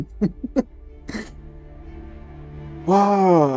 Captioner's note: crying